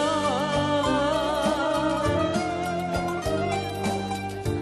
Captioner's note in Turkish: none